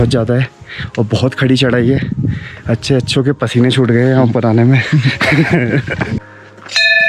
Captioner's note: laughs